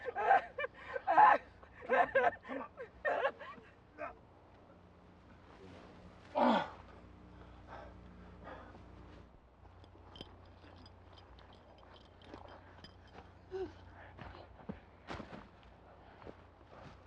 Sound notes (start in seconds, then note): 0.9 crying; 6.3 groans